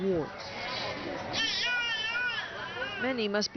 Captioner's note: pained crying